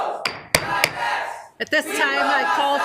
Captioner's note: gavel taps